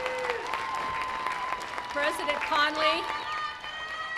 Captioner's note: applause